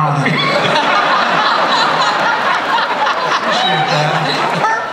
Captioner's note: laughter